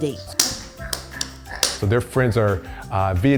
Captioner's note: kids slapping each other's hands